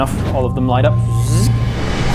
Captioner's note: zzzt